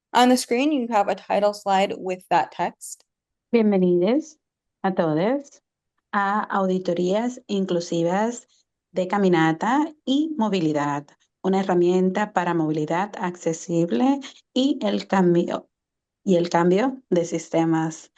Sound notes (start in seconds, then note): 3.6 interpreter speaking Spanish